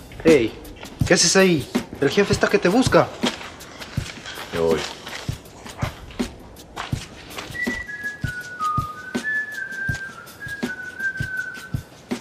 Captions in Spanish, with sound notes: Hey, que haces allí, el jefe está que te busca. ¡Ya voy! (silbidos)